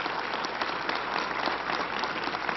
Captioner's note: applause